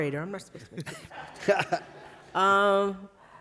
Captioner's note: laughter